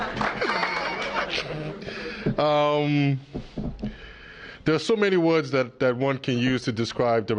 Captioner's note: applause